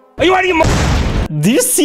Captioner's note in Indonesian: booomm!!